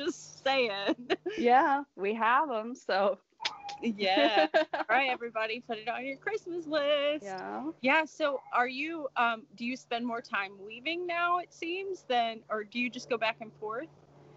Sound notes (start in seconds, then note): 3.4 clicks tongue